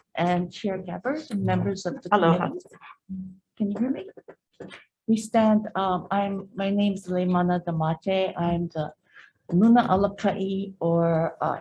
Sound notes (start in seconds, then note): 9.0 speaks foreign language